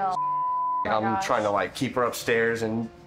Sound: beep

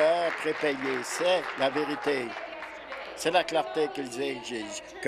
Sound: applause

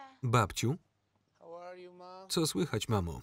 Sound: Ana speaking foreign language

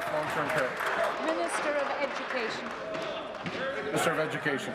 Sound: applause

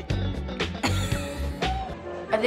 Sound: laughs

